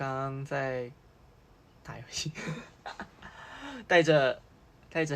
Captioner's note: wHeEzinG